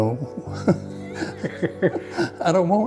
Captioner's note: chuckles